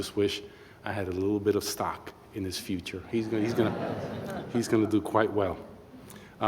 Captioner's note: laughter